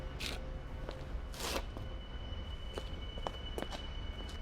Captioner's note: footsteps pattering